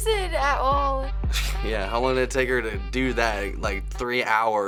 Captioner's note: scoffs